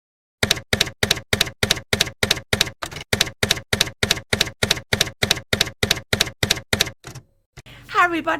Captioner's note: typewriter keys clacking